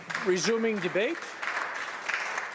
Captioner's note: speaking Alternate Language; applause